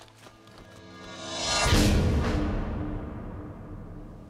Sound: air whooshing

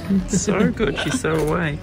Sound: chuckles

